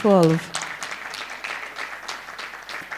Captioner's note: applause